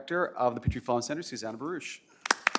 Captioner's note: applause